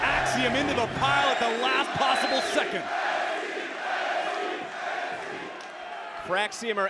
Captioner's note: crowd chanting